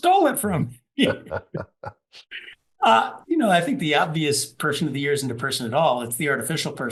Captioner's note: laugh